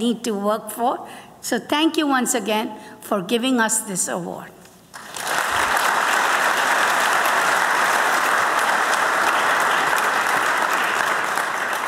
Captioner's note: applause